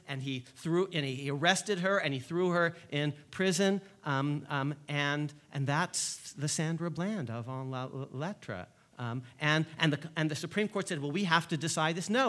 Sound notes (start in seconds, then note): 8.0 speaks foreign languge